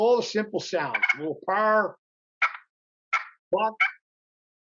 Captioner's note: turkey call